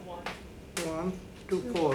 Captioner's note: woman's Voice